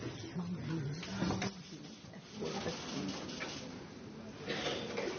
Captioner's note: quiet crowd murmurs